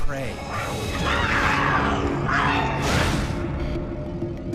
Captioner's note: screaming